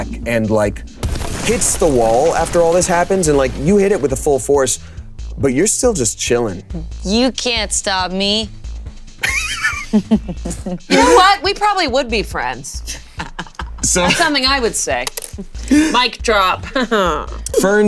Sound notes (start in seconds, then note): 9.2 Damien and Bug chuckling